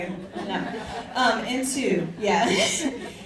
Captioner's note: audience laughs